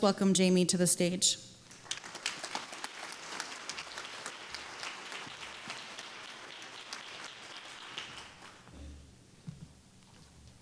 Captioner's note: applause